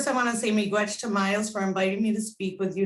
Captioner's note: speaking in foreign language